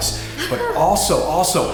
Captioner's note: laughs